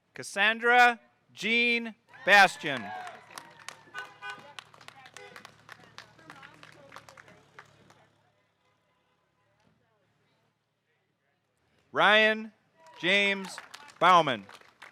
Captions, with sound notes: Kassandra Jean Bastian. (audience cheering) (car horn honking) (audience applauding) Ryan James Baumann.